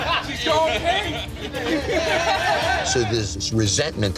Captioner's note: laughter